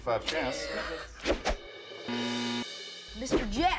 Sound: buzzer

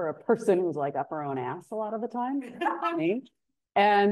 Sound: laughing

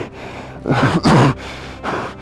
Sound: coughing

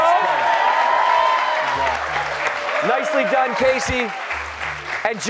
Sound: cheers and applause

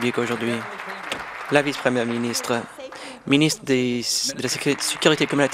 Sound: applause

